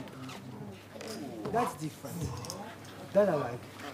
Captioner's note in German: Sie sprechen auf Englisch